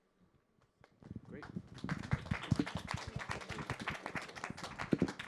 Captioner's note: audience applause